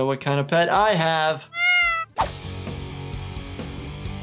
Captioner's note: cat meows